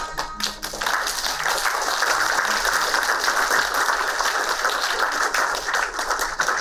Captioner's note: applauding